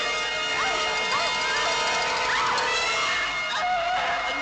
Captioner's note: screaming